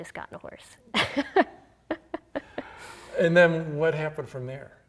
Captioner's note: laughing